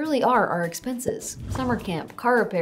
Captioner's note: text bubble whooshing